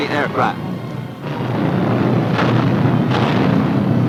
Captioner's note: booming